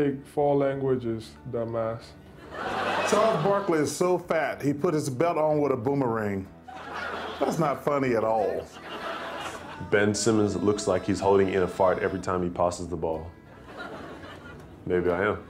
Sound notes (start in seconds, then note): 2.3 crowd laughing; 8.6 crowd laughing; 13.5 crowd chuckling